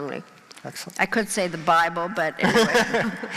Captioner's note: laughing